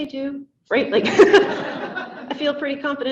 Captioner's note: laughing